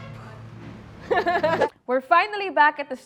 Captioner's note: laughs